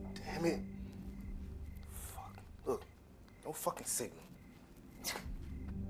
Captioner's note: scoffs